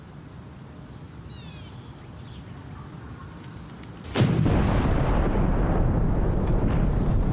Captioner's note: Explosion